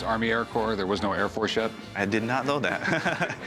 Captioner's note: chuckles